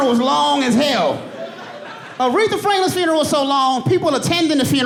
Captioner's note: audience laughing